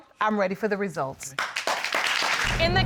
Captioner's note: applause